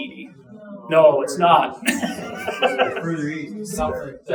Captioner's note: chuckling